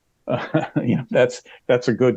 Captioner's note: chuckles